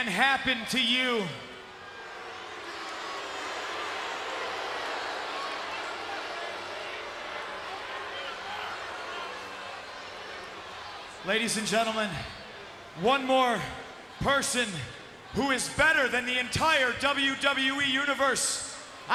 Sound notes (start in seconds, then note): 2.6 applause